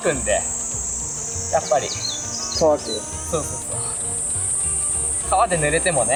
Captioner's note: laughs